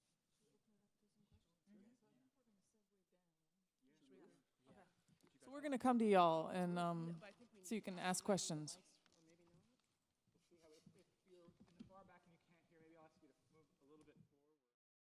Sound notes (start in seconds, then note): 9.6 speaking off microphone